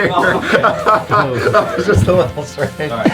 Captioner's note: laughing